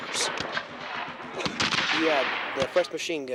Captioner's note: rifles fire